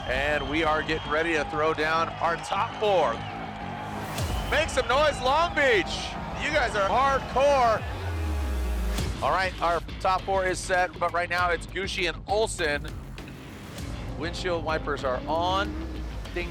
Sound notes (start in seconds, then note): 3.7 crowd cheering; 3.7 logo whooshes; 8.2 engine roaring